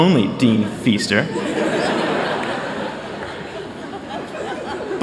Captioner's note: laughter